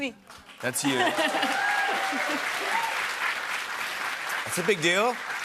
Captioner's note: cheers and applause